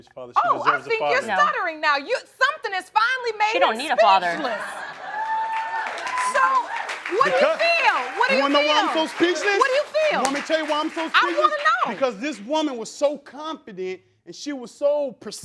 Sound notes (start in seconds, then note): 4.9 crowd cheering